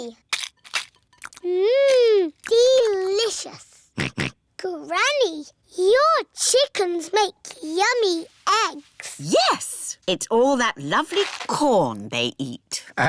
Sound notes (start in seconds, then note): 3.2 george oinks